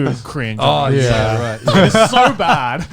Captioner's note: laughing